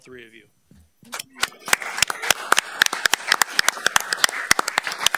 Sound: all applauding

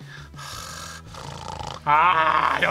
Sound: snarls

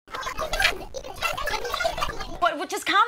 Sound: voices speaking rapidly

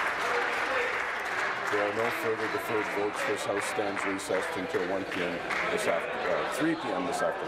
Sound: applause

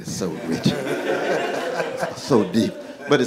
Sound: laughing

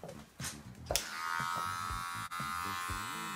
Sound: buzzing

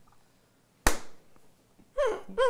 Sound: clap

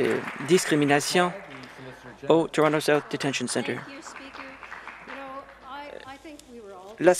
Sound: some Applause

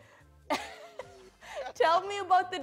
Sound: laughs

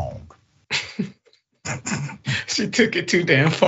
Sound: laugh

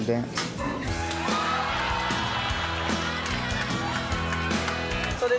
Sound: audience cheering

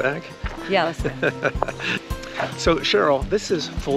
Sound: laughing amusingly

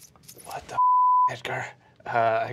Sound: beeping

